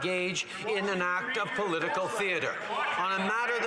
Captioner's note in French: voix de l'interprète